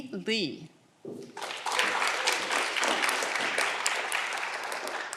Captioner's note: audience clapping